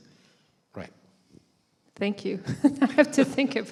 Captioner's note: laughter